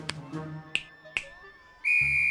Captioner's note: snaps fingers; whistle blows